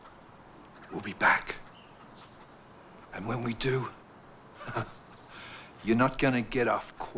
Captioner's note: laughs